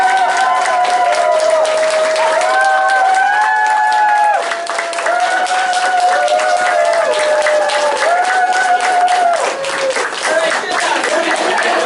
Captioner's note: cheering, applause